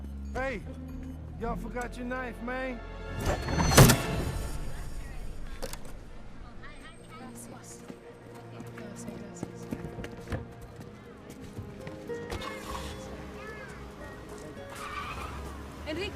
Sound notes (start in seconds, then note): 3.7 knife thudding; 8.6 Allegra speaking in Spanish; 12.5 engine starting; 14.6 tires squealing